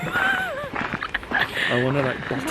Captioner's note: laughs